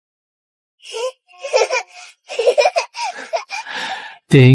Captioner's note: laughter